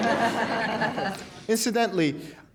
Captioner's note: laughter